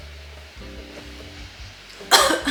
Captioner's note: sniffs